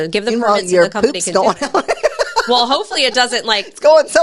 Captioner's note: laughs